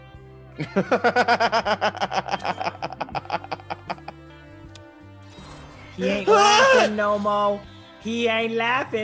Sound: laugh

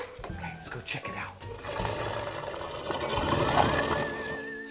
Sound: growling

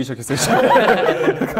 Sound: laughs

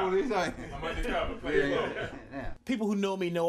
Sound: laughing covers dialogue

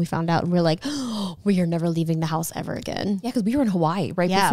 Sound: gasps

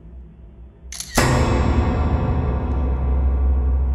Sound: suspenseful music; camera shutter

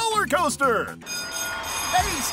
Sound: school bell ringing

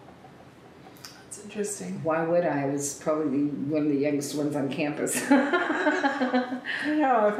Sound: laughs

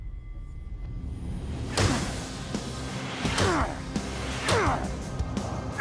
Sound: shouting

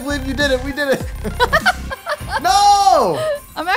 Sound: giggling

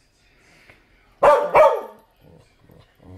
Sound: barking

